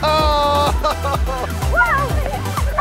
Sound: male instructor laughs

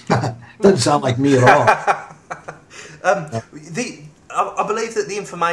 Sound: laughing

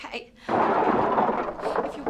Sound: crash

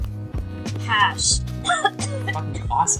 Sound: coughing

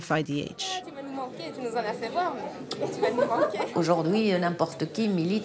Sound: speaking in a foreign language

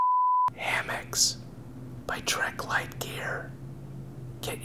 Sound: whisper

